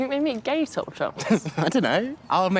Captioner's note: laughs